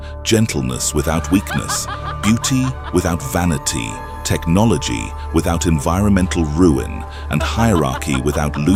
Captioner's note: laughter